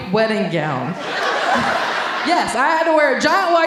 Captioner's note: audience laughing